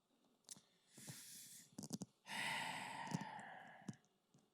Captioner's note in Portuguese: exala